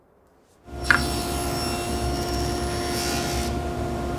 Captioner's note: saw whirs